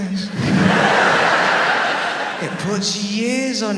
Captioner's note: audience laughs